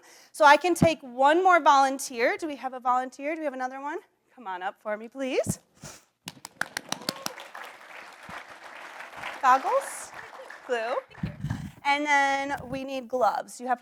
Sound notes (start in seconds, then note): 6.2 audience applauds; 6.2 claps hands